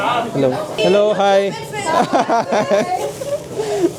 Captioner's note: laugh